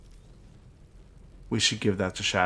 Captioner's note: silence